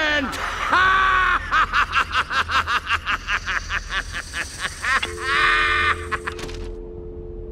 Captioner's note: maniacal laughter